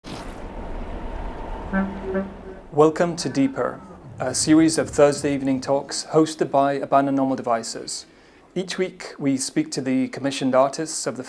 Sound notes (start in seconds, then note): 0.2 machinery whirring